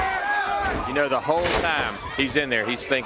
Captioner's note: crowd chatter